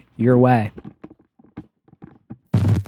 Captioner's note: footsteps